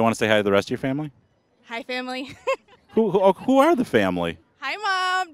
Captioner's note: laughing